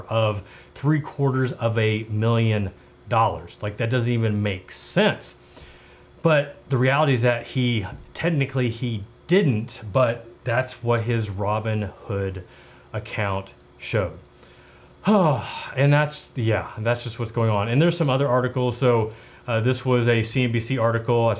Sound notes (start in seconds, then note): 15.0 sighs